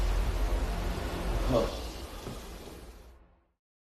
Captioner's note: exhales